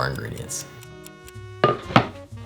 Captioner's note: timer ticking; board sliding